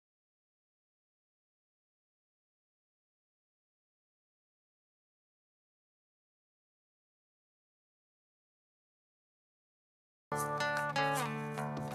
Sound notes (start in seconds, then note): none